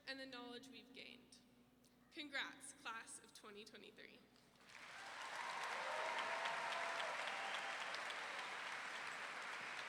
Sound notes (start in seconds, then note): 4.6 audience clapping and cheering